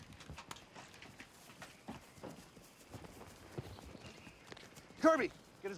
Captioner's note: footstep